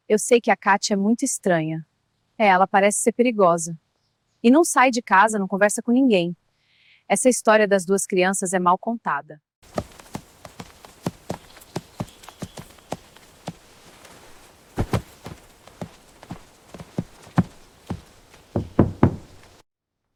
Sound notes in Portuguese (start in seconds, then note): 9.6 Patas de cavalo batendo no chão; 18.6 batida na porta